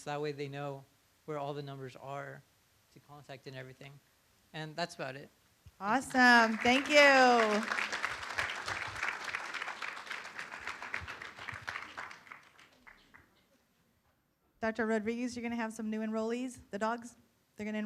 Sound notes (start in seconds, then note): 6.0 room applauds